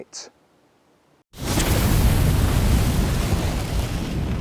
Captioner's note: fire roaring